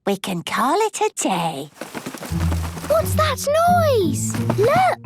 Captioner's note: scuffling